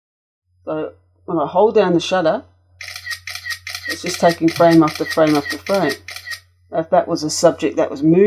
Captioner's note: shutter sounds